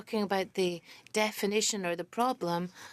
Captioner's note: speaking French